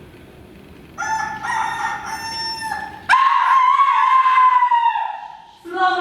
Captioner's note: rooster crows